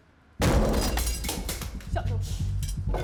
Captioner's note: door breaking